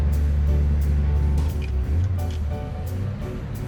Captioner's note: trucks driving